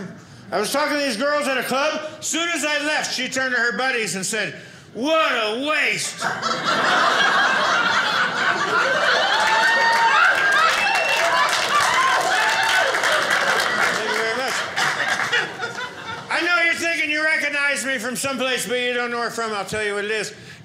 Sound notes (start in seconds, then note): 6.1 audience laughing; 9.2 audience cheering